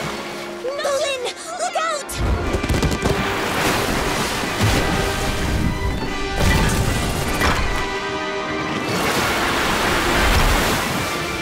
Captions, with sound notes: Bolin, look out! [water splashing] [water splashing]